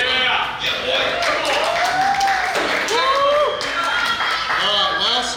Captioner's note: cheering & Clapping